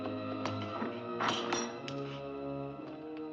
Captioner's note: suspenseful music; latch clanks; ominous music